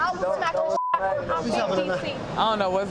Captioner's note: beep